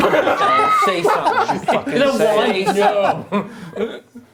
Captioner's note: laughing